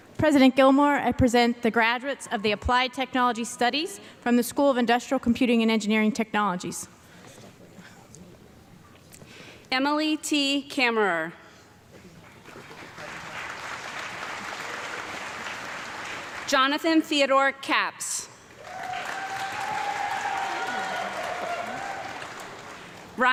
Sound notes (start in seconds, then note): 12.3 audience clapping; 18.4 audience clapping and cheering